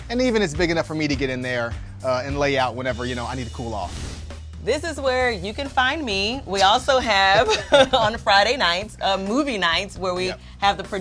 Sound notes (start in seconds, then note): 7.2 laughing